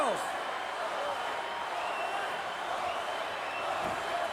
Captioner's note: crowd yelling